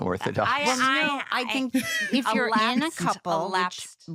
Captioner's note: laughs